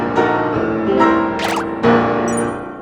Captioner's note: ding!